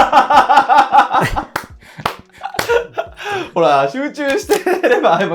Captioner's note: laughing